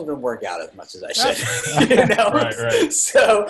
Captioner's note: everyone laughs